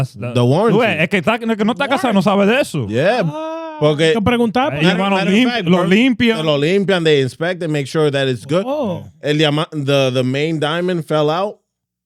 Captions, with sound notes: (Speaking In Foreign Language) Yeah. (Speaking In Foreign Language) They inspect and make sure that it's good. The main diamond fell out.